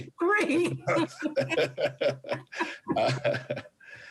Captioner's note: laughs